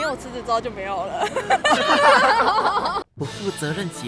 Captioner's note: cheerful laughter